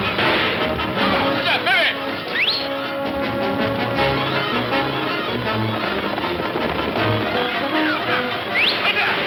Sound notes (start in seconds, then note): 2.2 whistles; 3.7 suspenseful orchestral music; 8.1 Pancho whistles